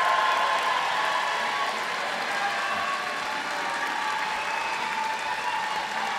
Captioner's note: applause